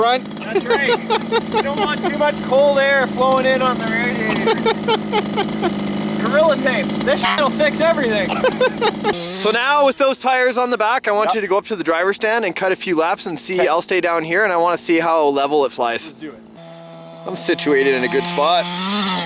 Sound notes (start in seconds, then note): 4.6 laughing; 7.2 honk; 8.5 laughing; 19.0 engine roaring